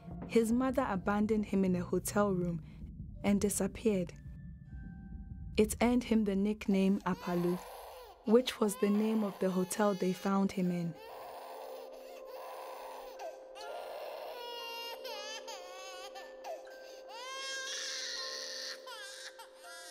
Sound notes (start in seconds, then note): 10.8 baby crying